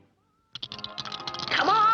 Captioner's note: dice rattling